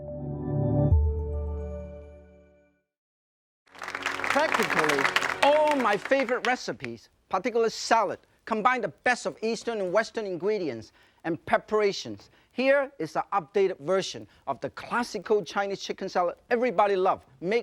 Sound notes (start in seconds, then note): 0.0 joyful music; 3.7 audience applause